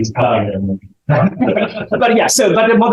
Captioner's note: laughter